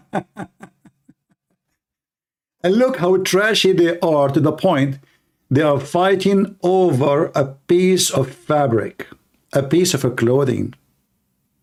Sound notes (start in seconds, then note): 0.0 Ketawa